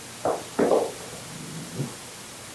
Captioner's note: rumbling / growl noise